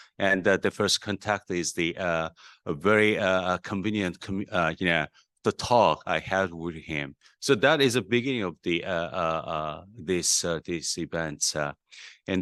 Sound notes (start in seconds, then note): none